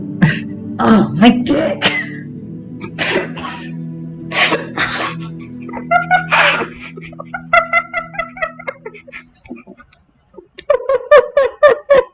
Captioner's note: muffled laughter